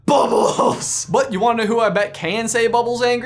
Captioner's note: laughs